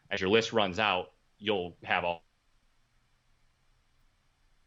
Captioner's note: audio cutting out